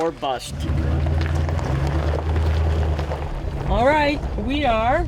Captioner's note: gravel crunching